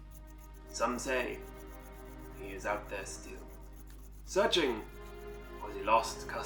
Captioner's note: bad French accent